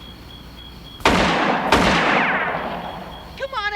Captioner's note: gunshots